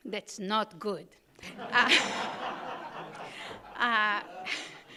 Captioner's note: audience laughing